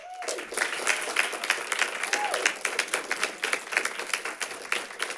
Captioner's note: audience applauding and cheering